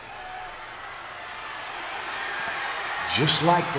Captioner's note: crowd cheering